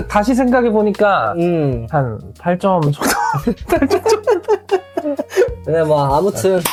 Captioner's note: laughter